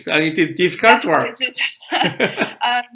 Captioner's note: both laughs